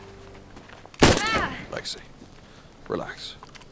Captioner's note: screams / gunshot